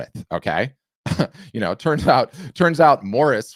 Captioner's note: chuckles